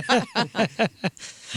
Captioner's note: laughing